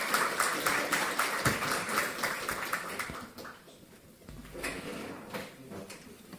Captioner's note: applause